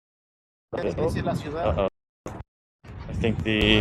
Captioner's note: people chattering